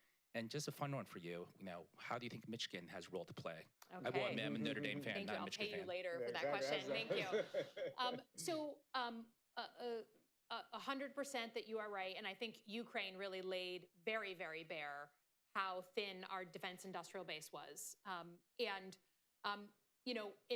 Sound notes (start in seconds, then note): 6.6 laughter